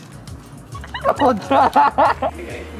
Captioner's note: laughing